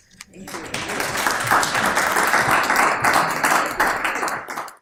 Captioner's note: applause